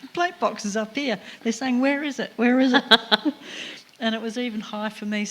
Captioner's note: laughter